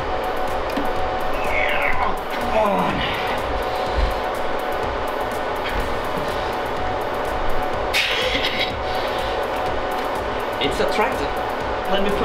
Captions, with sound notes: - [struggling sound] Come on! - Pffhh hehe [strained laughter...] - It's attracted! Let me...